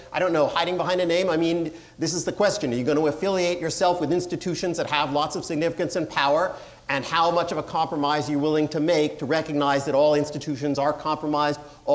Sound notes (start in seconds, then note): none